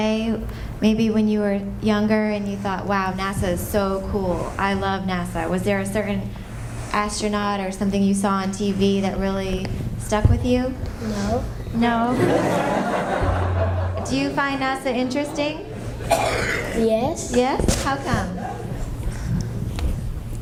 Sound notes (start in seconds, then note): 12.0 laughter